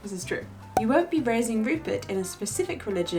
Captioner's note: air popping